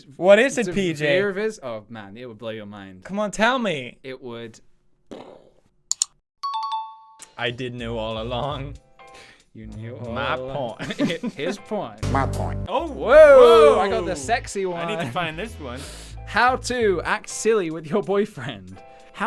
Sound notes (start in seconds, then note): 5.1 boom; 5.9 click; 10.8 laugh